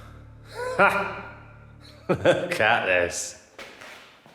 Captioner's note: Danny laughs